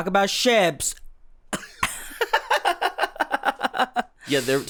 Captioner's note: laughter